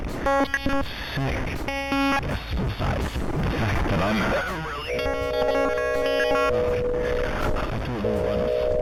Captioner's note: glitching noise